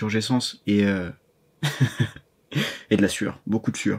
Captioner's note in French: rires